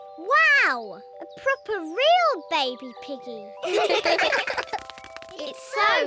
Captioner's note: all laugh